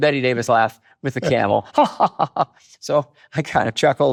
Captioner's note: mimics laugh